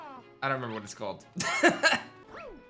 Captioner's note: laughs